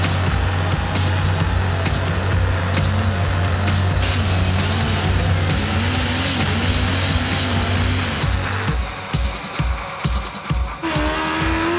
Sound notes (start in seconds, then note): 0.1 upbeat techno; 4.3 engine revs